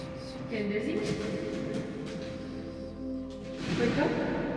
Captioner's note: voices echoing